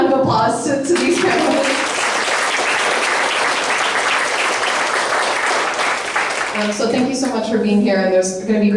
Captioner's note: applause